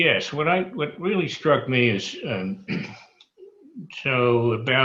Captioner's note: clears throat